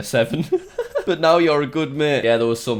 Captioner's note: laughs